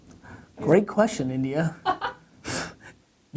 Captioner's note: laughs